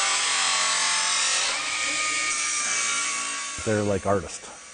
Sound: buzzing

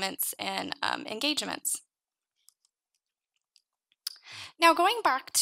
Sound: mouse clicking

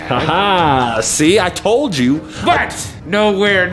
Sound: laughs

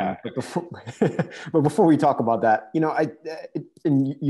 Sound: chuckles

